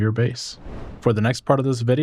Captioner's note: whooshing